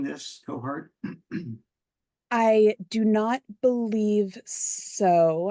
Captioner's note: cough